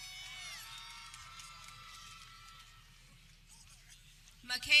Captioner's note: people cheering